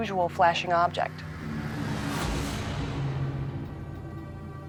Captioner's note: whooshing